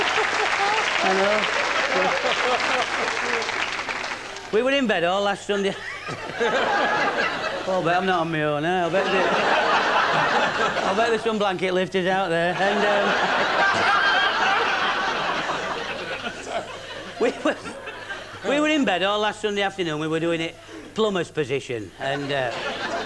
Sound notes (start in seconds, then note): 14.9 laughter